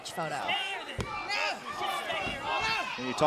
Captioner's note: crowd chatter